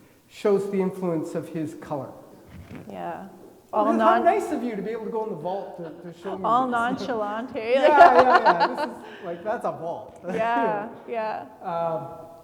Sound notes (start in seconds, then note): 6.2 laughing